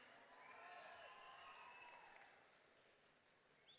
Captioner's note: audience cheering